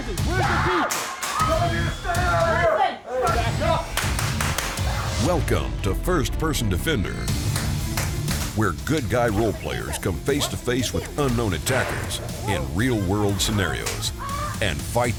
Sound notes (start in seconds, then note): 0.0 upbeat music; 0.2 screaming